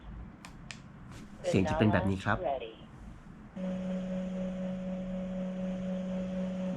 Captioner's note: Device sound: "Banala Ready"